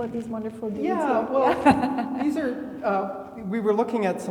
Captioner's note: laughing